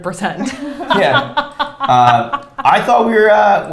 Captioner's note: laughs